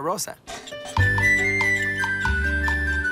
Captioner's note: wheels squeak